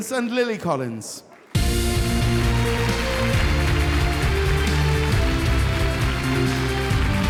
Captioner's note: audience applauding; upbeat music